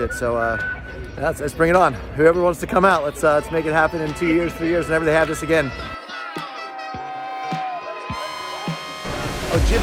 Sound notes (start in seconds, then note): 6.1 cheering; 6.3 horns